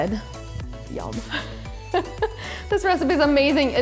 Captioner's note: laughs